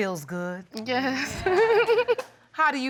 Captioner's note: giggles